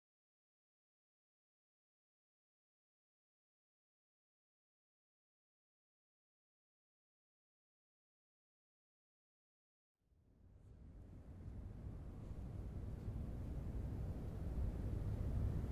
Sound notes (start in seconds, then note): 11.0 wind blowing